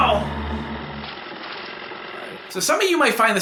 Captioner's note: money whirring